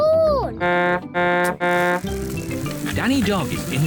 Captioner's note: honks horn